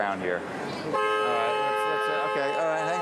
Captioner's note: horn honking